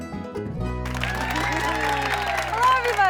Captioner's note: audience applauding